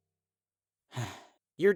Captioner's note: sigh